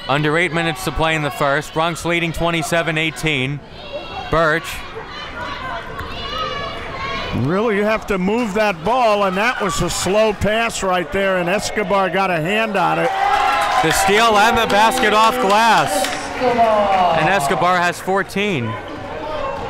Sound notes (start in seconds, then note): 12.7 crowd cheers